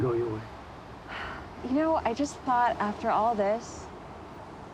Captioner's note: sighs